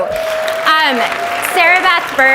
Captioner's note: audience applauds